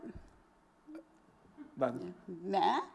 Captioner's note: stammers